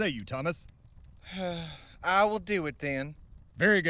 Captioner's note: reluctant slave owning sigh